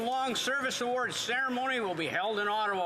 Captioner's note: applause